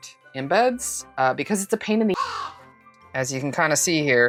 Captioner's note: caw